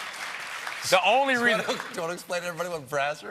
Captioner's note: applause